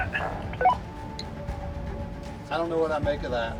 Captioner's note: exclaims on radio